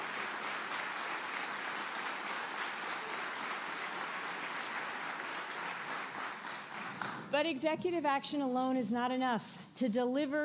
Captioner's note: applause